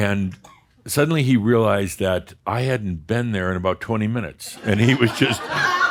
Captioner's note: some chuckles